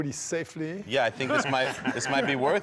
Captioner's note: laughs